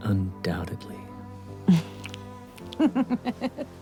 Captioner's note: laughs